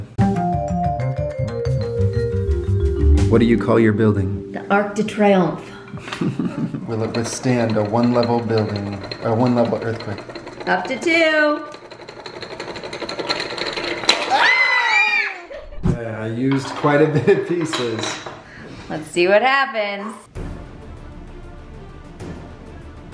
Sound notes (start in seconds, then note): 0.1 upbeat percussion music; 5.9 laughter; 12.4 rattling; 14.1 exclaims; 20.3 intense music